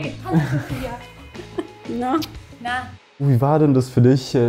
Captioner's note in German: Kusslaut